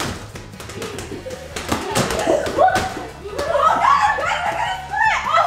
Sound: ball bouncing; laughing; screaming

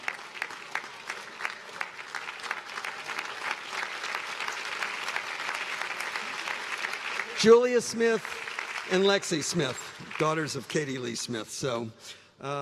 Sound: applause

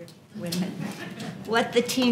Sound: laugh

